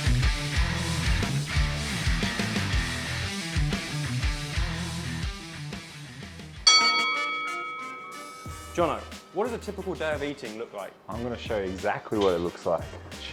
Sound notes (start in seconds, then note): 6.6 bell chimes